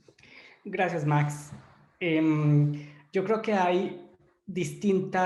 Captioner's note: in foreign language